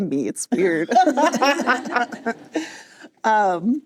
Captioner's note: laughter